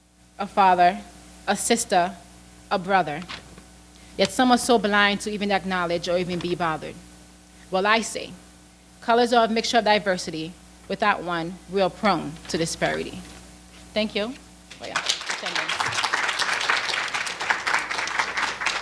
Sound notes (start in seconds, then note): 14.7 applause